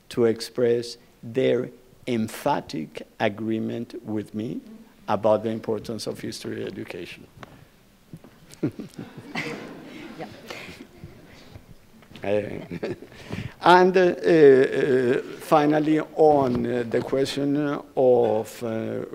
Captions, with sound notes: to express their emphatic agreement with me about the importance of history education. (chuckles) (audience chuckles) And finally on the question of women and gender,